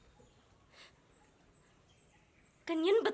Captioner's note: breaths